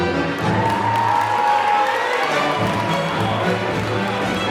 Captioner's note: applause